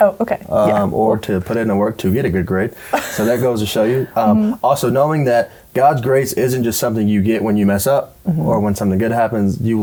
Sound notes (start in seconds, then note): 2.9 laughter